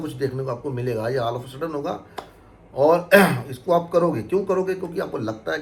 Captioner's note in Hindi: गला साफ़ करने की आवाज़